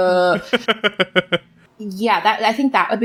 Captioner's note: laughs